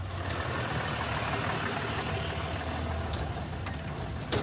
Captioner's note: truck rumbles